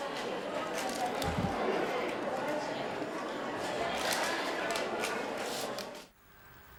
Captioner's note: people chattering; cameras clicking